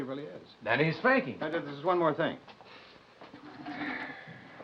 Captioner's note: sighing